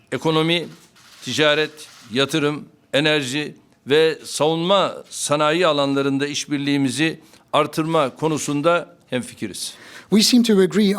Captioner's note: speaking Turkish